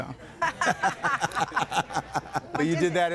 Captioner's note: crowd laughing